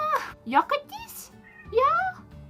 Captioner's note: more meowing